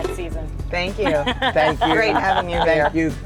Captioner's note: laughing